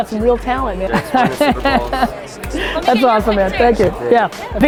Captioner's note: laugh